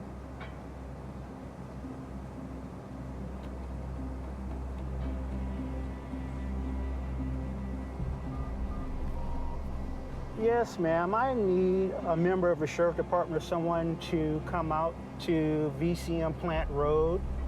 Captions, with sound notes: (dramatic music) (cellphone tones beeping) Yes ma'am, I need a member of a sheriff department or someone to come out to VCM Plant Road.